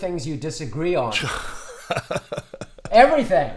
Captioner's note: laughs